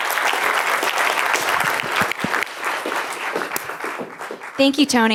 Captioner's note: applause